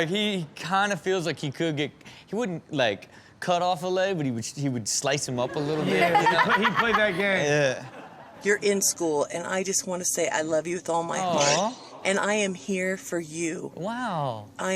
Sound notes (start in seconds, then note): 5.5 Chanel laughs